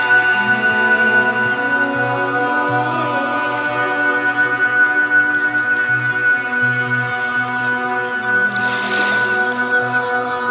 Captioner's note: gentle voices